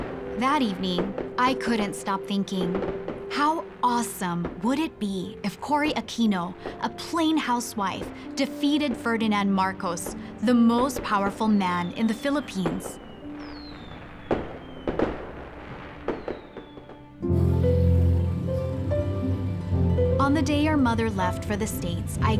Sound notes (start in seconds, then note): 13.7 fireworks whistling, blasting; 17.3 mellow piano music